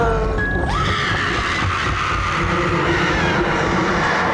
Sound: screaming

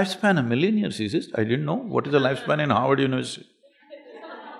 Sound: laughter

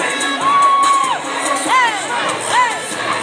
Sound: chanting

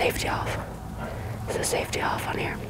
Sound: whispering

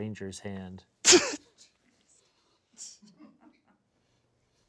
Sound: laughing

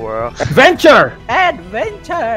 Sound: suddenly yelling

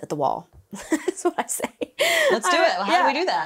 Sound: laughs

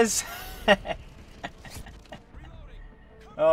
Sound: laughs

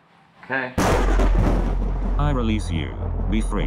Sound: thunder rumbling

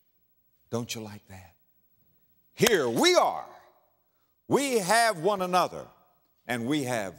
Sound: clap

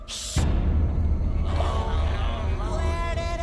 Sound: moaning

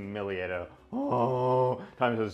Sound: groans

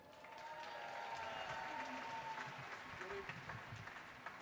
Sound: audience clapping

